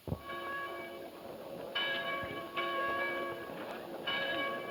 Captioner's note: church bells ringing